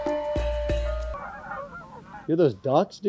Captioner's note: geese sounds